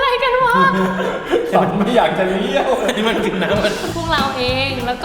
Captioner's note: choking